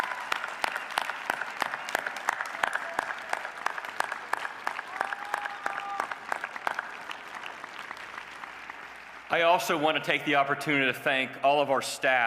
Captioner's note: applause